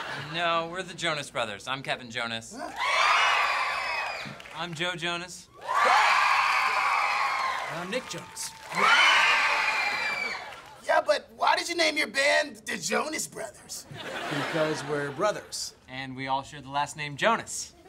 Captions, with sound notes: No, we're the Jonas Brothers, I'm Kevin Jonas. [cheering] I'm Joe Jonas. [cheering] And I'm Nick Jonas. [cheering] Yeah, but why did you name your band The Jonas Brothers? - Because we're brothers. - And we all share the last name Jonas.